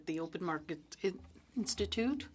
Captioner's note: speaking French